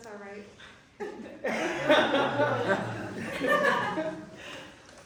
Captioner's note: laughter